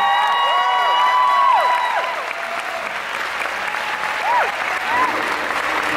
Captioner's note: applause